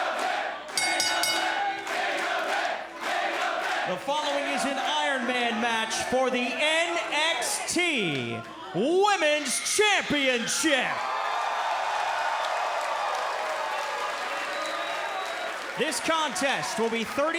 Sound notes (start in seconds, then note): 2.3 bell ringing; 9.9 crowd cheering